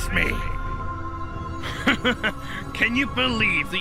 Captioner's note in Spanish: Risas